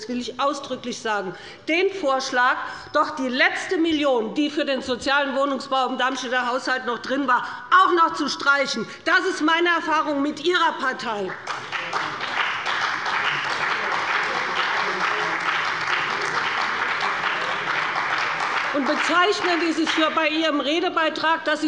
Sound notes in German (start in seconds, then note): 11.2 Beifall bei dem BÜNDNIS 90/DIE GRÜNEN und der CDU